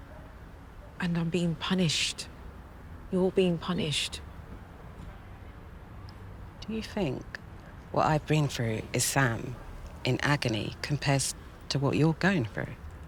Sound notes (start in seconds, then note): none